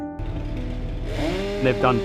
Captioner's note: motorized sawing